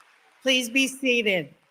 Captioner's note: applause